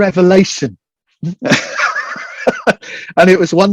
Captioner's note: laughing